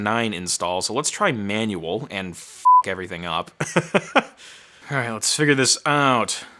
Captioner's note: laughing